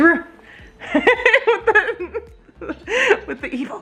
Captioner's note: laughing